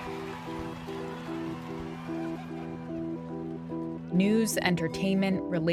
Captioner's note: soundbite of tv show, "survivor"; cheering